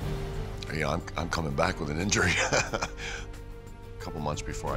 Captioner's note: laugh